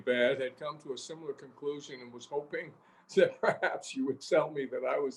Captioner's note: laughs